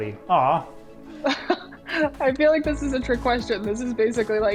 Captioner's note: laughs